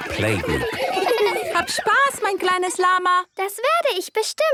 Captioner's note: laughter; speaking German